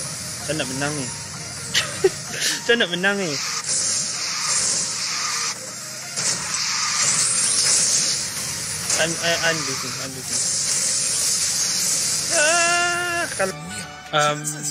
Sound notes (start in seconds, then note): 1.8 laugh